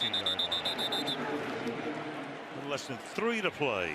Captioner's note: pa announcement